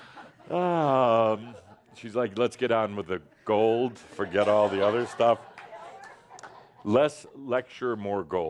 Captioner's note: some chuckles